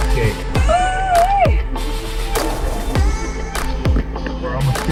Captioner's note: screams happily